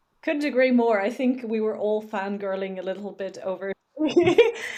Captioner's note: laughs